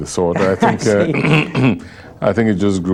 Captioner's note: laughter